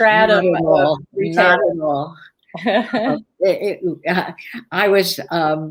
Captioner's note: laughter